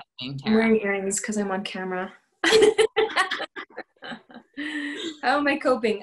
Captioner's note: laughter